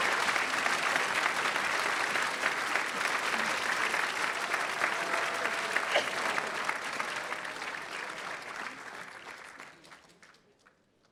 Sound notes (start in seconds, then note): 0.1 attendees clapping; 4.6 attendee coughing; 7.2 attendees clapping